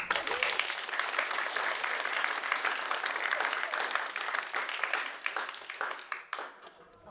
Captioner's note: applause